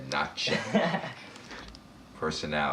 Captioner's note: laughs